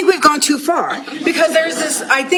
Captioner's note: laughter